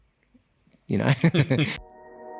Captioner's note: laugh